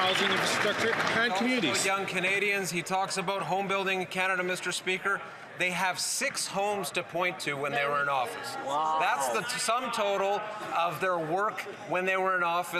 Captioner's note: some Applause